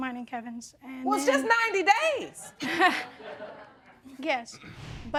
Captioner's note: laughing